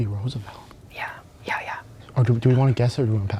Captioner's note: whispering